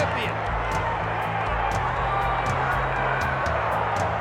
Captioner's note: audience cheers